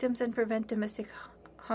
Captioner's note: speaking french